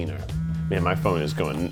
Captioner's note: phone buzzes